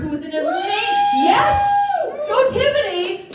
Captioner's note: crowd Screaming